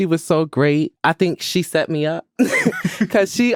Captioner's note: all laughing